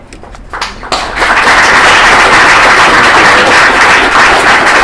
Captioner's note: applause